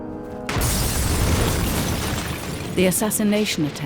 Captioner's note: explosion roars